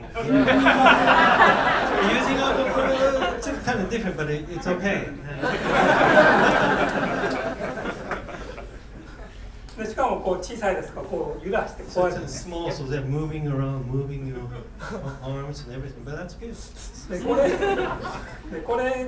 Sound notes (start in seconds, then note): 0.0 laughing; 5.4 laughing; 10.1 speaking in foreign language; 17.2 laughing; 18.8 speaking in foreign language